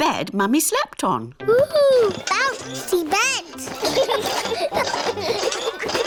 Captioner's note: children laugh